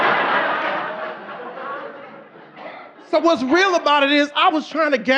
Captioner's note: audience laughing